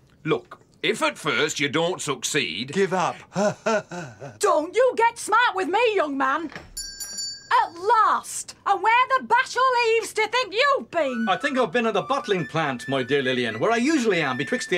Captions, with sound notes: Look, if at first you don't succeed... Give up. Hahaha... Don't you get smart with me, young man... [Ding!] At last! And where the Bashall Eaves do you think you've been? I think I've been at the bottling plant, my dear Lillian, where I usually am betwixt the